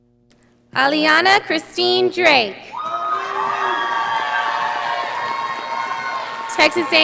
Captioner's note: audience applauding